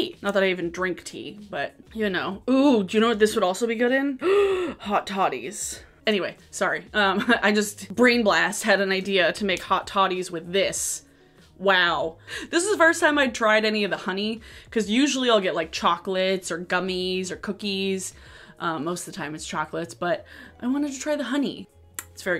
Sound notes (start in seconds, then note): 4.2 gasps